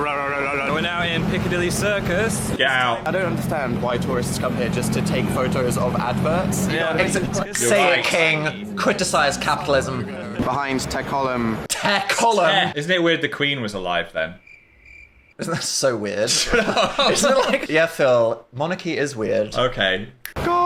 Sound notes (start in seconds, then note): 14.3 crickets chirp; 16.2 laughs